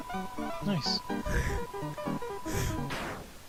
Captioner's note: snickering